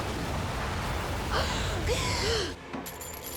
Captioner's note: gasping